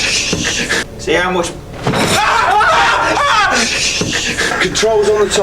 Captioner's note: screams